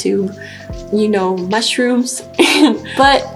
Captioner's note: giggles